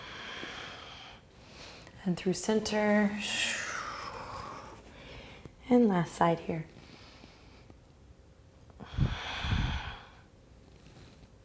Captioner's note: breathing